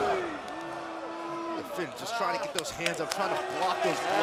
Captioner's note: crowd cheering